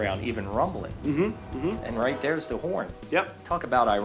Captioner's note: train rumbling; train horn